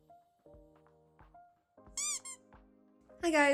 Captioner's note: squeak